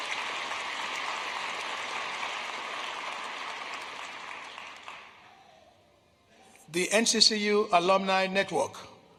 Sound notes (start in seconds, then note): 3.0 applause